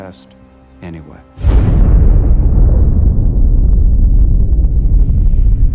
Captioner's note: explosion roars and echoes